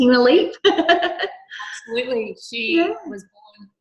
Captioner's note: chuckling